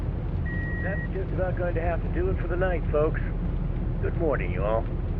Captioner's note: radio